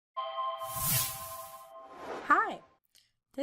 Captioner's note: chiming